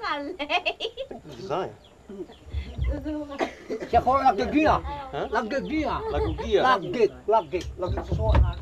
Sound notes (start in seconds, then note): 0.3 woman laughs; 4.6 man speaking mentawai